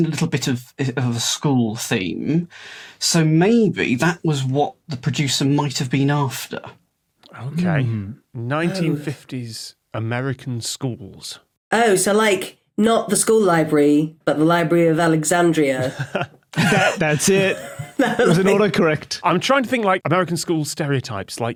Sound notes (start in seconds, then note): 15.8 chuckles